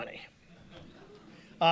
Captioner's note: audience laughing